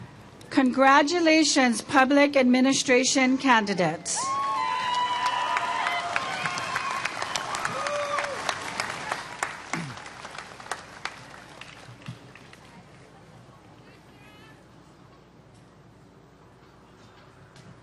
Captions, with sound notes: Congratulations Public Administration candidates. [Applause]